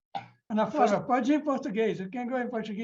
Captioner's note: speaking in Portuguese